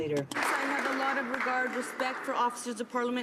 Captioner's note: some Applause